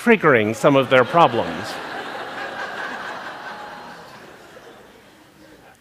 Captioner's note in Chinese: 笑聲